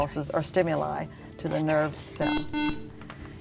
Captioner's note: buzzer